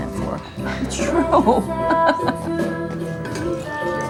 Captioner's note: laughing